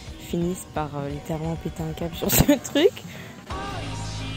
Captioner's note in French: rire